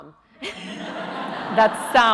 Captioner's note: audience laughing